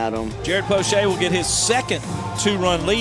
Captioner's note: voiceover